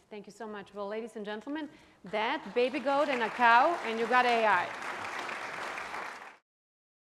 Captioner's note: applause